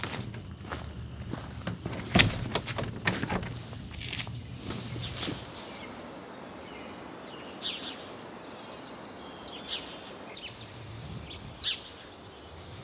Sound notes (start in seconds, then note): 0.0 footsteps; 6.2 birds chirping